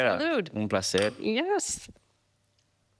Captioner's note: speaking Spanish